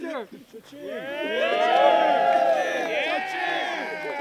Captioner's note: cheering